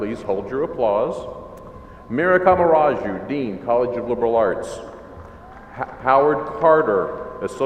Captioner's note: murmurs from crowd